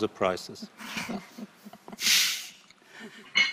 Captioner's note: laughs